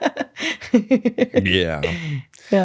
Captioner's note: laughs